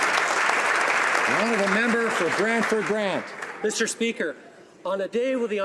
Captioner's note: some Applause